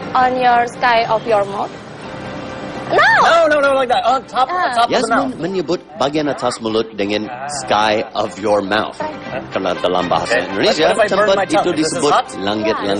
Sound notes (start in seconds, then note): 5.6 non-english speech; 9.7 non-english speech